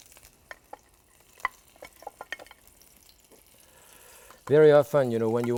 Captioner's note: pan sizzles